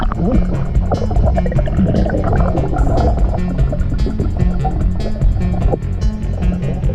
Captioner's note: tense techno music; water gurgling